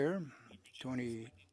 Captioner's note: speaking French